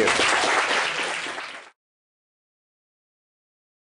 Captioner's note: applause